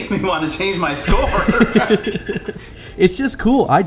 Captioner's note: both laughing